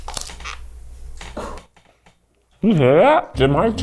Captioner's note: crew member laughs; tacos squeaks